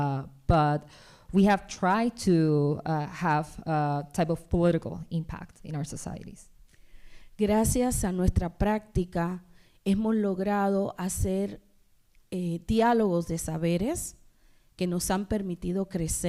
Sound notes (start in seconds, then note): 7.3 speaking spanish